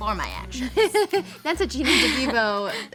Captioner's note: laughing